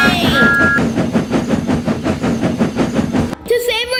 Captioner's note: Thomas blows his Whistle and Chuffing